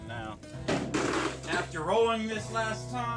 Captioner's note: vehicle thumping